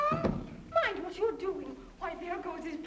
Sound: cat meowing

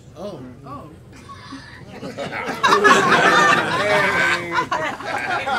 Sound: audience titters

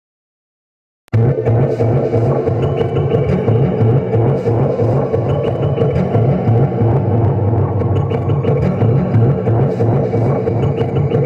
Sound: sound of future city ambience

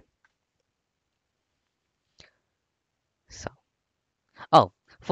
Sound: waits in silence

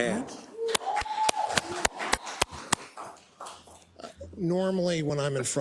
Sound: applause

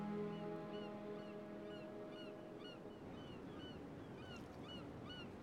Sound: seagulls singing

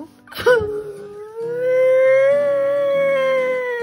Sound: sniffling

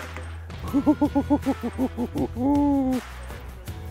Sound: laughs

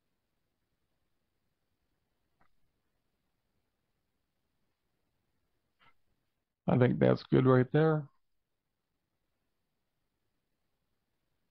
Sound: silence

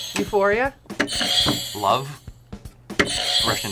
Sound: bell rings

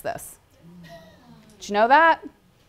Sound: audience groans

